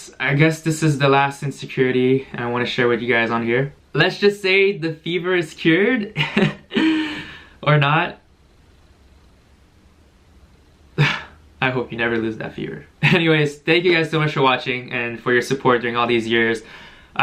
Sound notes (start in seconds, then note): 8.5 silence; 11.0 sigh